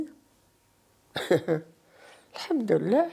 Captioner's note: laughs